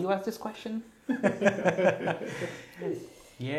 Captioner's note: Gülüşmeler